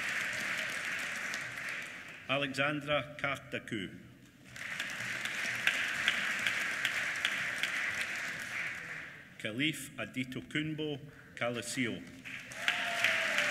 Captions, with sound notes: Alexandra Kardakou. (APPLAUSE) Khalif Adetokunbo Koleoso. (APPLAUSE)